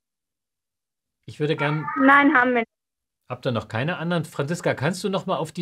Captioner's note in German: Kinderstimme